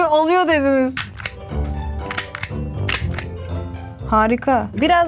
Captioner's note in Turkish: çakma sesi